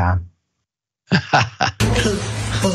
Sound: laugh

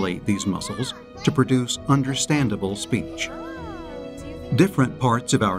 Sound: toddler making speech sounds

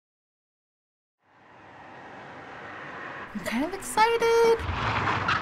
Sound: silence; car approaching; tires skidding

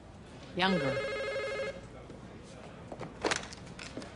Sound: phone rings

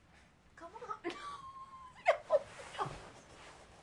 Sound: laughs

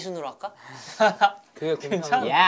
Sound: haha

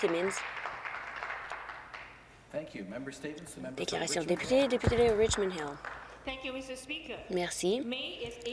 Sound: some Applause

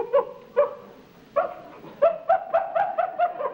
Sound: imitating monkey

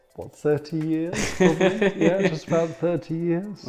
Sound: laughs

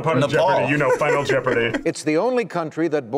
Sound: laughs

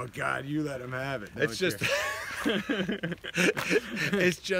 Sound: laughs

